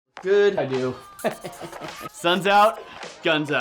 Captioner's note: laughs